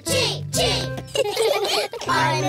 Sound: all laughing

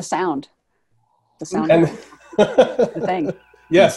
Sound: laughs

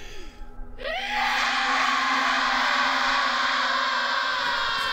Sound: banshee screaming

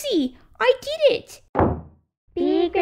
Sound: slam!

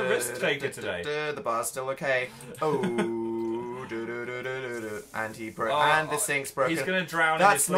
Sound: hums tune; hums tune

